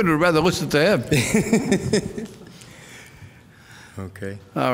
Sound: laughing

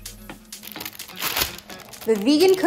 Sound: upbeat music; paper crinkles

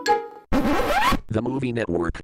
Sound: record scratches

